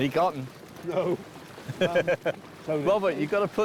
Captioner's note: laughing; laughs